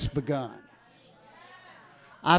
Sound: congregation cheering

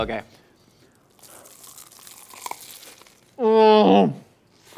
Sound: crunching; moans

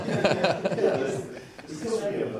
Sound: laughter

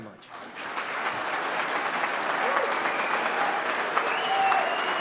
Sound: audience applauding

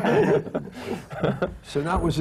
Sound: laughter

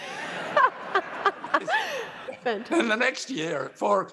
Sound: laughter

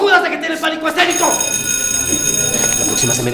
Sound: ring bells

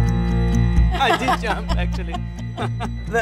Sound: laughter

